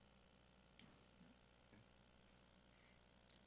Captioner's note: none